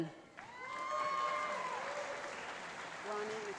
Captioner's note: cheering